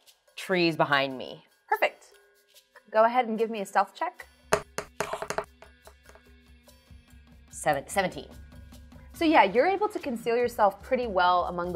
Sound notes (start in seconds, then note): 4.6 dice thudding; 6.3 intense music